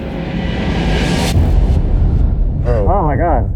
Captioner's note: fire rumbling